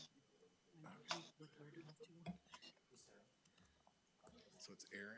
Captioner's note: speaking faintly